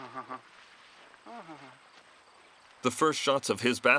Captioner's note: hums